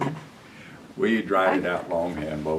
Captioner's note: laughter